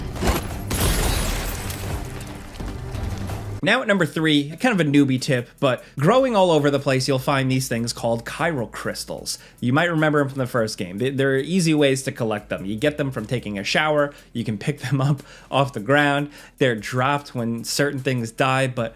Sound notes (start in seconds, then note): 0.1 grenade blasting